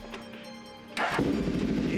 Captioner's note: engine starting